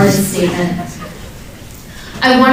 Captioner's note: scattered laughs